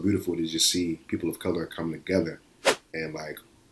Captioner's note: whoosh